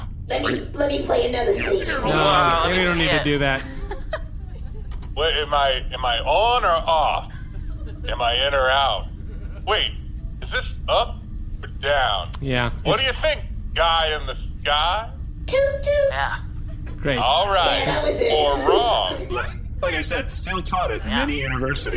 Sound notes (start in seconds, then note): 5.0 ‘weeble-woop’ sound of the projector being activated; 7.1 audience laughter; 9.1 more audience laughter